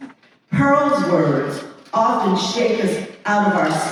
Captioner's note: none